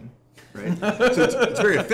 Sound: laughter

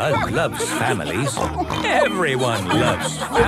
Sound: snorts

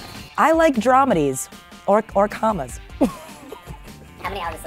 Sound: laughs

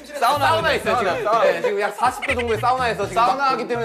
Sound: big laughter

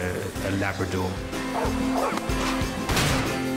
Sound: barking

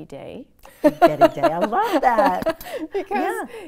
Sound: laughs

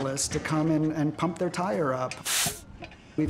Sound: pumping air

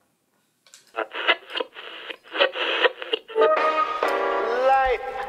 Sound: radio tuning

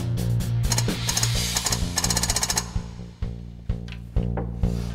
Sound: whirring

